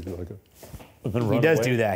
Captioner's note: fabric rustles